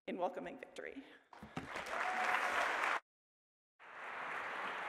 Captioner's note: applause